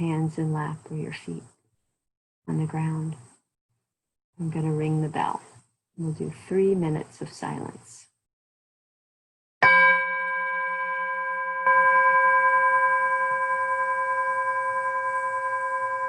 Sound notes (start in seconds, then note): 9.6 bell Rings